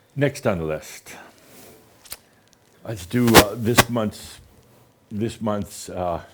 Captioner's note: static